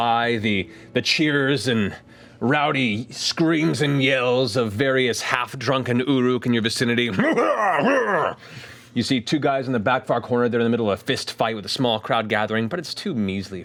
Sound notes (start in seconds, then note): 7.2 shouting